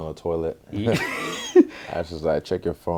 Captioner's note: laughs